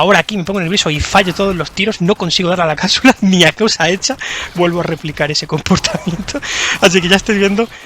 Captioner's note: laughs